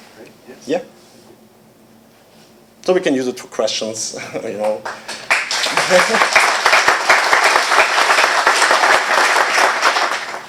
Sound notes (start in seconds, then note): 4.6 applause